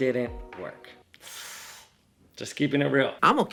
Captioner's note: inhaling